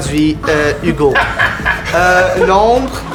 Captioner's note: laughter